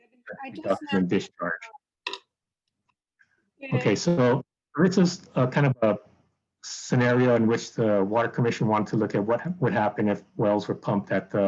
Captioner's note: background noise interference